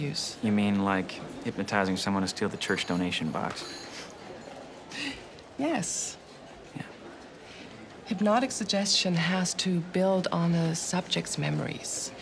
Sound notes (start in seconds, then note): 4.1 laughs